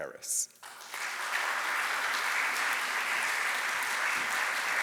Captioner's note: audience applauding